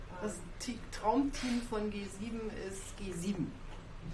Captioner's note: speaks German